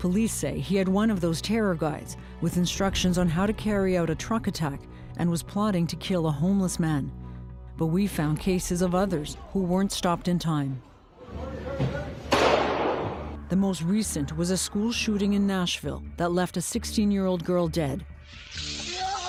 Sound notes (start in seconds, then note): 12.3 gunshot booming; 18.8 woman screaming in agony